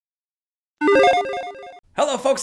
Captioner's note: logo dings